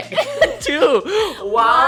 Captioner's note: both laughing